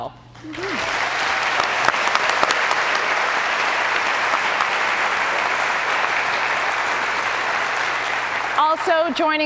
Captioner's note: cheers and applause